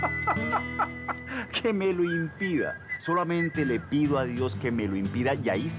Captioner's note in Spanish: Risas